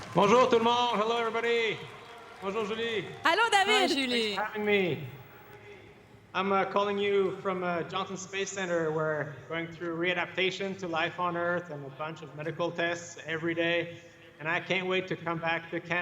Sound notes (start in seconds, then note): 5.6 applause